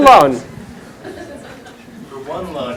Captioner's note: chuckles